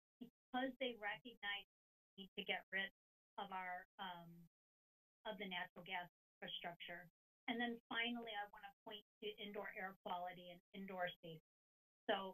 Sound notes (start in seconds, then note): none